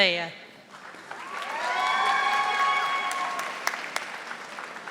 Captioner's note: audience applauding